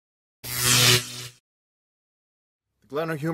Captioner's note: electric zap!